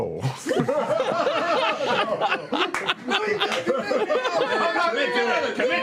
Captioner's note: laughter